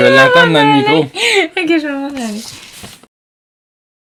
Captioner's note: laughs